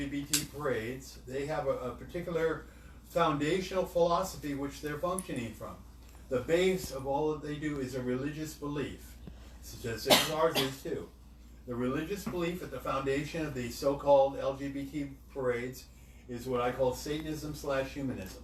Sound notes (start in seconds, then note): 10.0 coughs